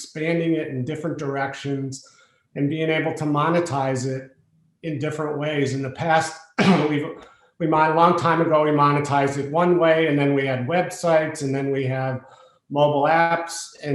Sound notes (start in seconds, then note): 6.6 cough